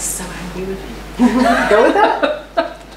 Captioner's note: laughter